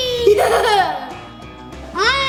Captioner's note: laughter